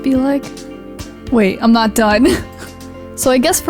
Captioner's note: laughs